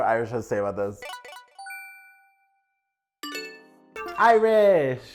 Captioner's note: tinkling